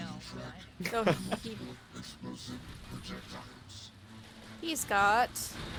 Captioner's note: laughs